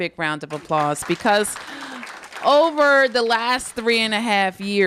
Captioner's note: applause